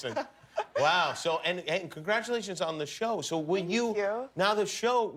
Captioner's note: laughter